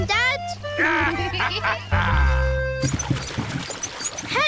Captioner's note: both giggle